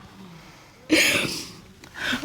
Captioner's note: sniffles